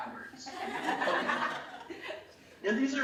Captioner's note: laughing